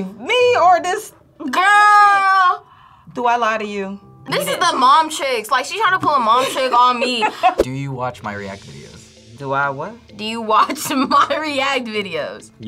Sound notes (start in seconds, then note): 2.7 gasps